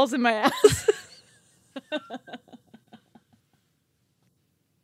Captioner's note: chuckling